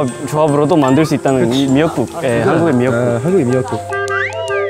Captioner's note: boiling boiling